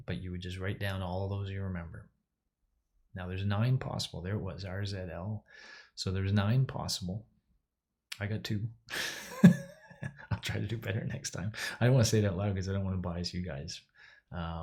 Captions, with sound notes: But you would just write down all of those you remember. Now, there's nine possible. There it was, R, Z, L. So, there's nine possible, I got two (laughs). I'll try to do better next time. I don't want to say it out loud 'cause I don't want to bias you guys.